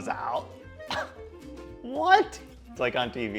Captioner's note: giggles